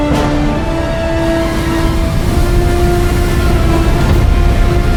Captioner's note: waves crashing; intense music continues